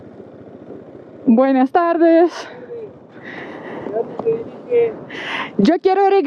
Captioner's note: in Spanish